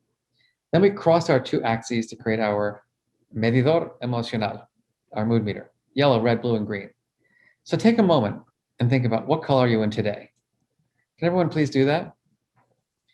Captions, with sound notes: Then we cross our two axes to create our, (speaking in foreign language), our mood meter. Yellow, red, blue and green. So take a moment and think about what color you're in today. Can everyone please do that?